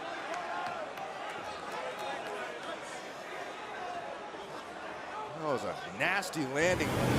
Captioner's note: crowd chatter